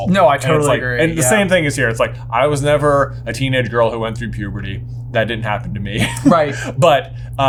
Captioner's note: laughs